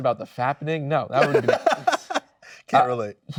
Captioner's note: laughing